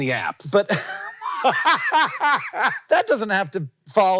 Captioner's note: Hank laughing